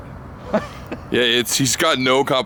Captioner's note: laughing